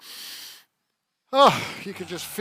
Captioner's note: inhales; sighs